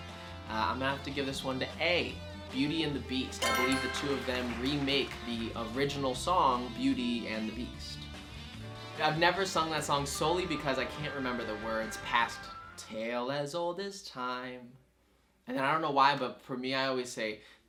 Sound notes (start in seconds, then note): 3.4 answer board chimes; 3.4 crowd claps